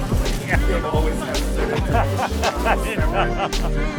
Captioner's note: laughter